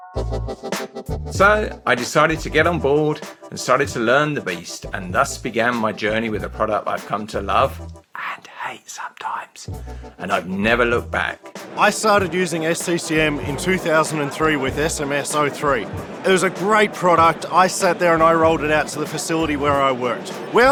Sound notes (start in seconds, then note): 0.3 upbeat music; 8.9 whispering softly